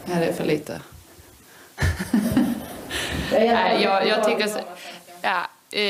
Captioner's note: Seger laughing